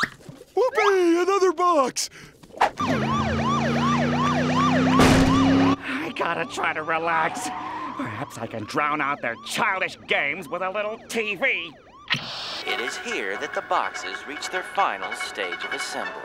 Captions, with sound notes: Whoopee! Another box! [police siren blaring] I gotta try to relax. Perhaps I can drown out their childish games with a little TV. It is here that the boxes reach their final stage of assembly.